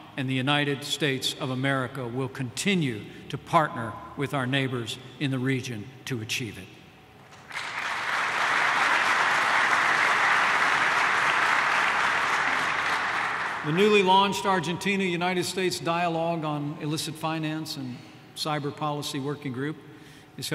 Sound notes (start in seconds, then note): 7.3 applause